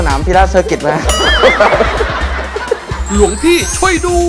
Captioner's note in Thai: เสียงหัวเราะ